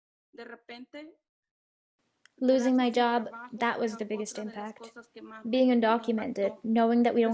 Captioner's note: through translator